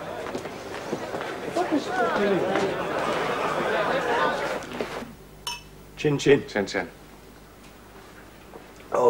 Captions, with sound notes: (Chatter) - Chin-chin. - Chin-chin.